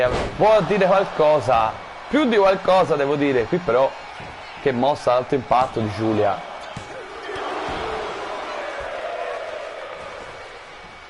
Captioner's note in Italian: Applauso